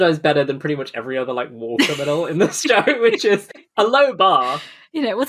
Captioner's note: laughing